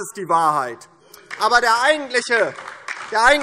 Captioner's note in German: Beifall DIE LINKE